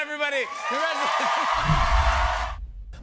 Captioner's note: cheers and applause